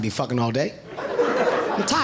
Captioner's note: audience laughing